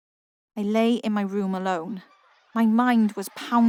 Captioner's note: night-time ambience